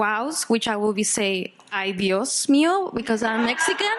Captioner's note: speaking Spanish; audience laughing